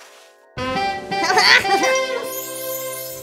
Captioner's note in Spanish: Risa pícara